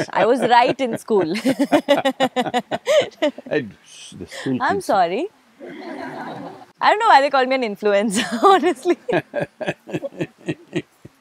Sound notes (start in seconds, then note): 0.0 both laugh; 4.3 laughter; 8.2 both laugh